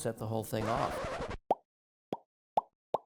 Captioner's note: record scratch